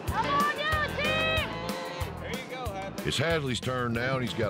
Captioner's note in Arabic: خرير العجل